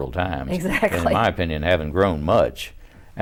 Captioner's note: laughs